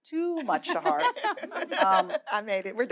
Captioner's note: audience laughing